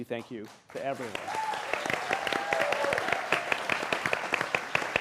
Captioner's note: applause